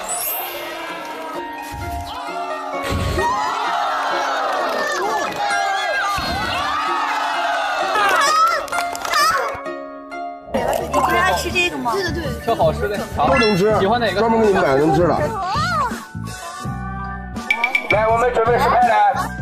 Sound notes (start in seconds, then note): 3.2 applauding enthusiastically